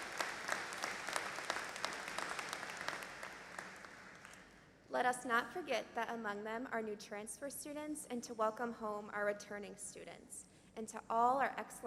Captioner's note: applause